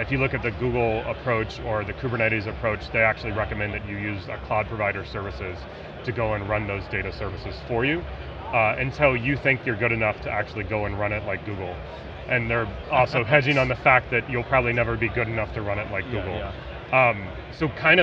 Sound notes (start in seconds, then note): 13.2 laughing